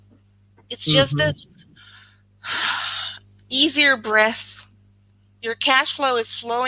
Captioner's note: exhales